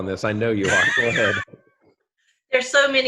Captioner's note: laughs